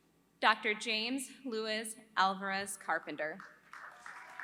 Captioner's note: applause